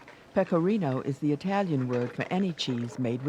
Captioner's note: voiceover